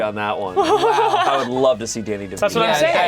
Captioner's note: giggles